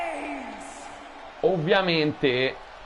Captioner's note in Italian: urlo